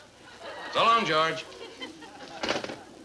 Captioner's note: sound of phone being put down